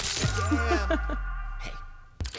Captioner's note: laughter